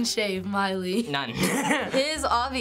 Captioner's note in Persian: خندیدن